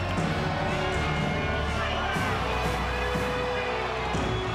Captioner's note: upbeat marching music; crowd cheering